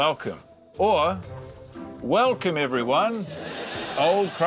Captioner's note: laughter